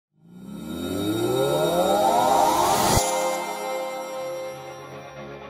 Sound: mechanical drone begins

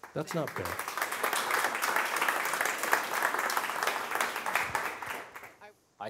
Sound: applause

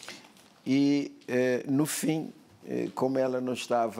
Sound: speaking portuguese

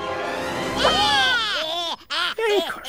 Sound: dramatic music; kids growling

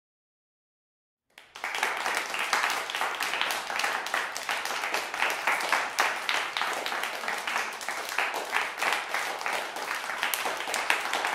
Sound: sound of clapping

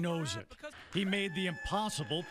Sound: cheers

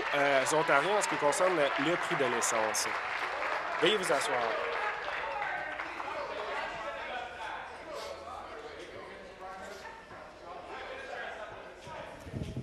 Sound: applause

